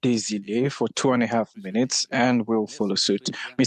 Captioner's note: speaking French